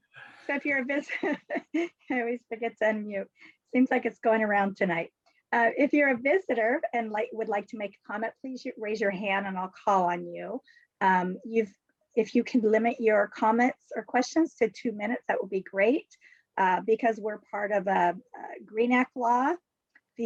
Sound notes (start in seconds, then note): 0.8 laughs